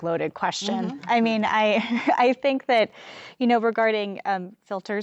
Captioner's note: laughs